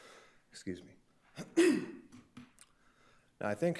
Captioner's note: clears throat